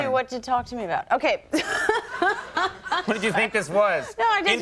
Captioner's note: Jennifer laughs